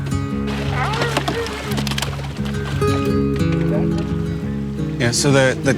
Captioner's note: eiders quack